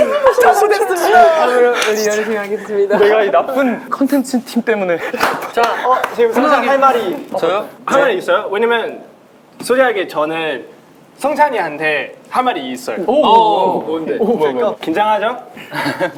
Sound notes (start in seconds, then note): 4.6 laughing